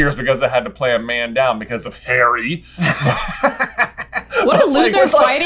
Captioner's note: laughter